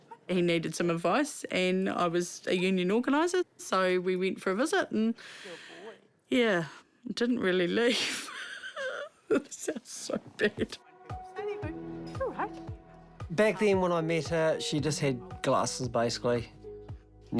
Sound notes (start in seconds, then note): 8.3 chuckles